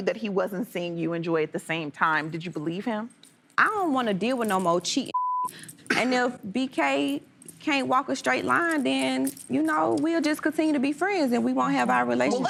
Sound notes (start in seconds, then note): 5.1 beep